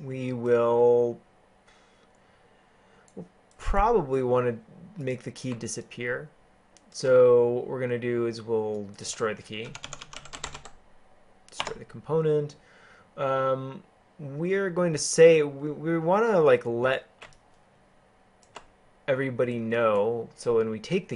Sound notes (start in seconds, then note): 9.6 keyboarding